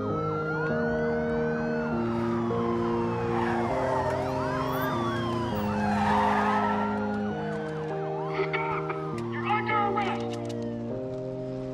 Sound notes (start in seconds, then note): 6.1 tires screeching